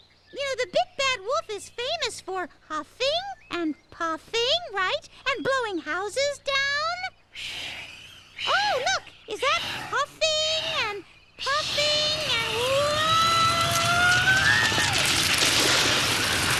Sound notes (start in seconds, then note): 7.4 breathing; 13.2 whoosh